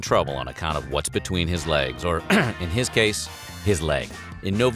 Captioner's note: clears throat